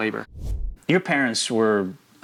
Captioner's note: air whooshing